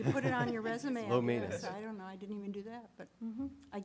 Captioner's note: laughter